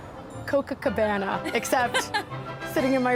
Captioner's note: laughs